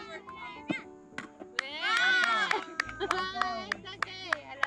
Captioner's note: everyone cheers